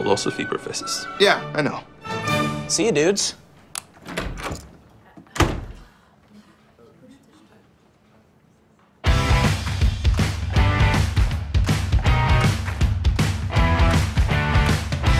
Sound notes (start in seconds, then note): 3.7 switch clicks, door closes; 5.0 all murmur